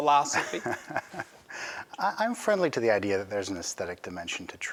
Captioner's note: chuckles